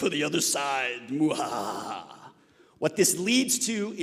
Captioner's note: laughing dramatically